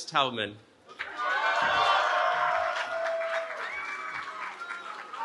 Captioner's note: cheering